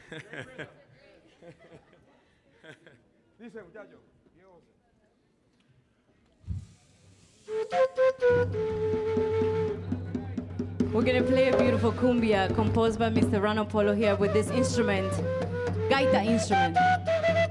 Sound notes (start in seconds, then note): 0.0 chuckles; 3.5 speaks in Spanish